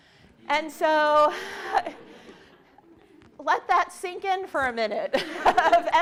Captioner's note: laughs